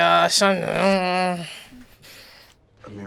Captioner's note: grumbling